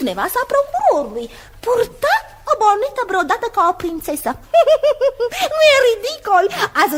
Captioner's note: laughs